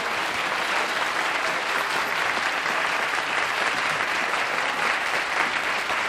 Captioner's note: laughter, applause